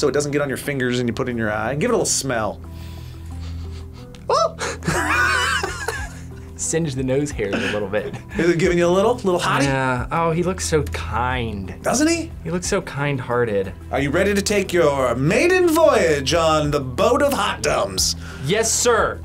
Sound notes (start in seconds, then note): 2.8 sniffs; 3.4 both laugh